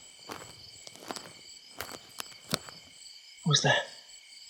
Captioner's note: wood cracking